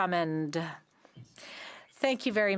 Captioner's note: speaking French